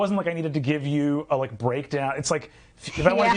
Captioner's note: laughing